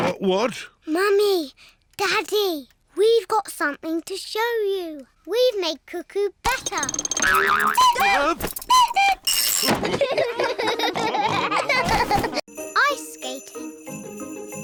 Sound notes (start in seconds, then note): 6.6 clock cuckoos; 9.8 all laugh